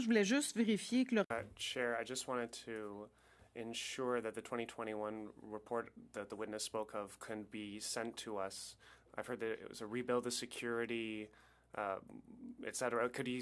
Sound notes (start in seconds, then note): 2.3 speaking French